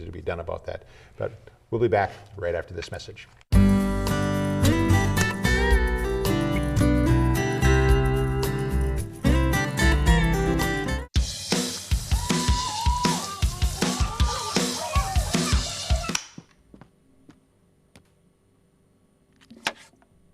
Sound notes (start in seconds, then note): 11.1 rhythmic drums and cymbals; 12.0 happy exclamations; 16.1 click; 16.1 silence